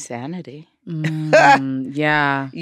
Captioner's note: laughs